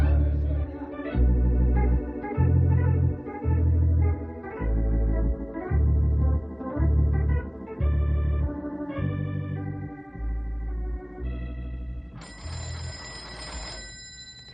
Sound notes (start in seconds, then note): 0.0 crowd chattering; 5.8 phone ringing